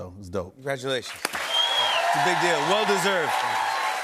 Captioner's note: cheers and applause